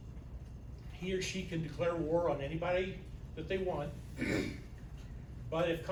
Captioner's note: clears throat